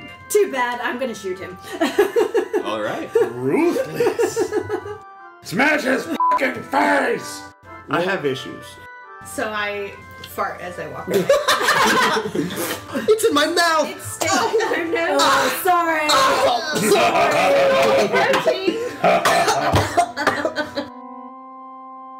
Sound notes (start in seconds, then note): 19.1 all laugh; 19.2 thppp